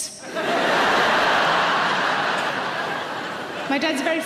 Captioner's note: audience laughing